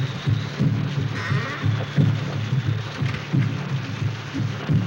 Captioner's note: door creaking